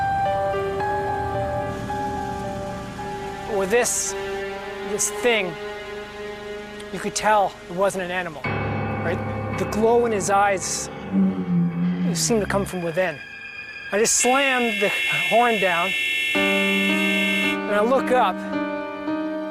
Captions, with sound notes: (creepy music) Well this, this thing, you could tell it wasn't an animal. (suspenseful music) Right, the glow in his eyes, (monstrous moan) it seemed to come from within. I just slammed the horn down, (horn blaring) (mysterious music) and I look up.